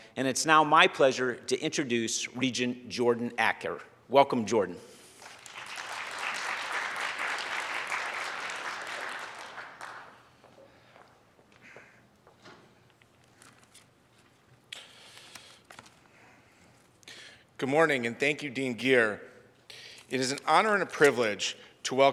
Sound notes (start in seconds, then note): 5.2 audience applauds